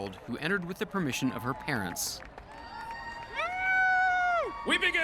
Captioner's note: cheers and applause